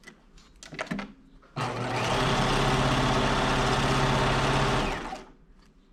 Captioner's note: sewing machine whirring